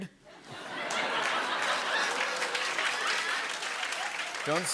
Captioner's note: laughter